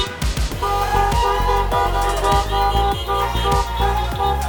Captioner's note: crowd cheering; horns honking